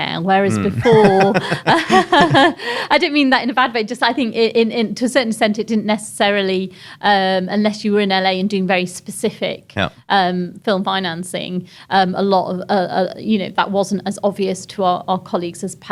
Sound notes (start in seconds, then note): 1.9 laughs